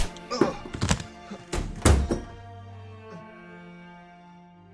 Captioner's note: door slammed shut